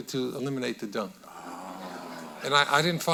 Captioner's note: audience laughing